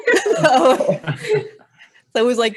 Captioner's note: laughing